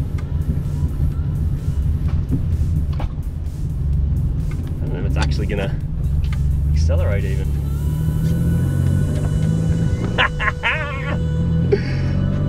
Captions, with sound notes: I don't know if it's actually gonna, -accelerate even. -[engine accelerates] [chortles]